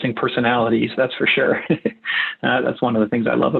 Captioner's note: chuckles